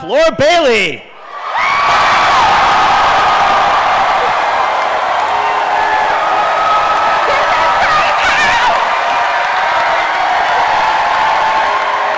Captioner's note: cheering and chanting "Vex"